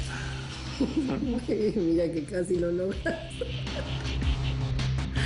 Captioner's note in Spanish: Risas